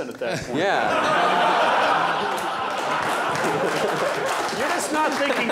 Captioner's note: laughter